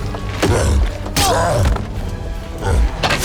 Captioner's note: soldier 2 groans